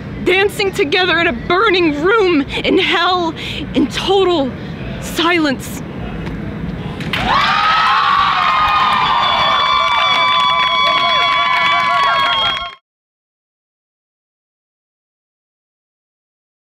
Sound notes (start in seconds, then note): 0.2 talking in background; 7.0 cheering in the background